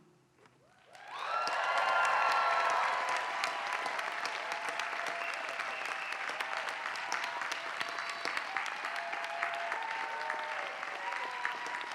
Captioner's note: applause